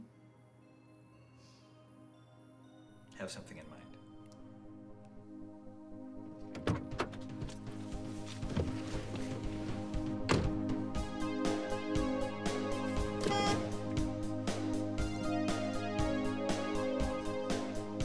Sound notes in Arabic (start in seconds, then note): 0.2 موسيقى هادئة; 12.5 صفير البوق; 14.1 موسيقى إلكترونية إيقاعية